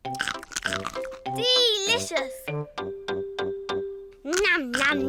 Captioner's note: crunches